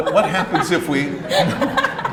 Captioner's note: audience laughs